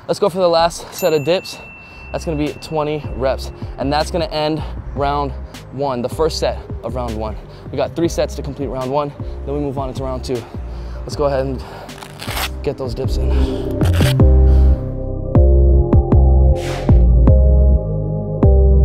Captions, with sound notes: Let's go for the last set of dips. That's gonna be 20 reps. And that's gonna end round one, the first set of round one. We got three sets to complete round one, then we move on into round two. Let's go ahead, and get those dips in. (velcro rips) (laid-back electronic music)